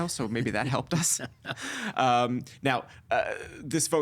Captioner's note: chuckling